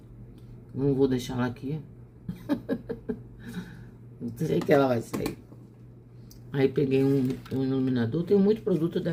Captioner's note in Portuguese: risadas